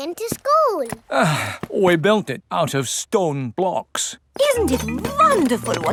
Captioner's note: sighs